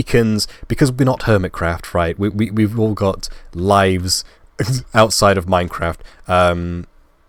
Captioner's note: laugh